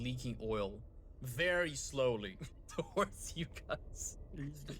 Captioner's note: laughs